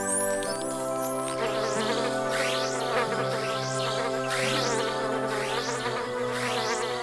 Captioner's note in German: Signal ertönt; summend